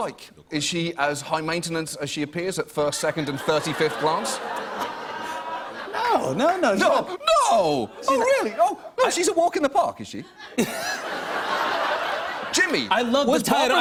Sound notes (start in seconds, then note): 3.0 laughter; 10.2 laughter